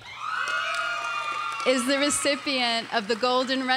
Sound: audience cheers and applauds

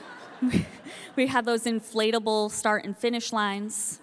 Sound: audience laughing

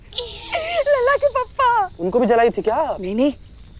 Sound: laughing

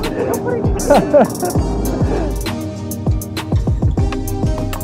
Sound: laughs

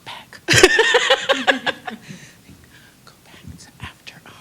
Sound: laughter

